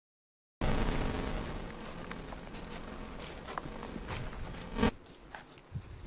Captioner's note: glitchy electronic interference noise